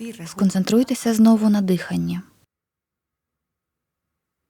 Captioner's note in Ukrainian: пауза